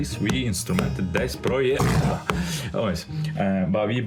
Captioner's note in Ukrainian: звук тигра